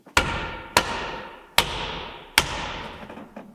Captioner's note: board thudding